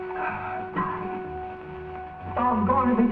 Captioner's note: coughs